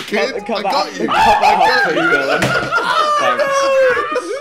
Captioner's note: laughing